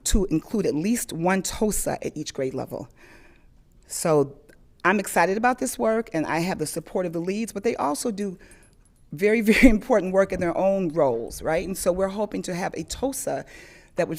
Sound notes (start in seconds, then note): none